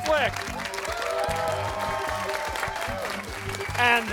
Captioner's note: cheering